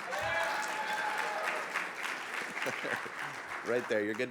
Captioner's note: audience cheering